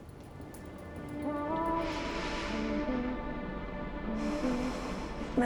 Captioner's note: prolonged breathing